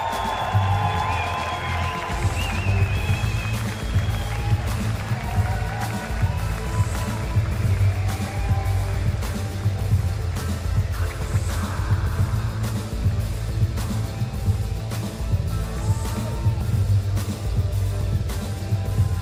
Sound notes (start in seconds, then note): 7.4 cheers and applause